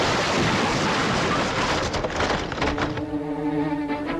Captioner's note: debris clattering